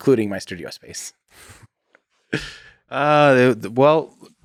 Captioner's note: Tim laughs